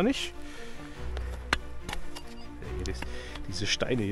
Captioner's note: squeaks